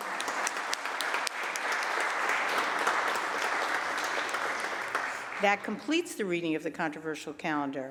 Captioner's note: applause